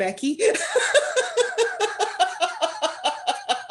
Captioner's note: laughter